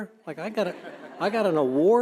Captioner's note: audience laughing